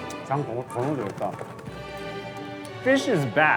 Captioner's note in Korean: 파닥파닥